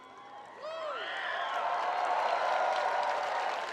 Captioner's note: spectators cheering; spectators applauding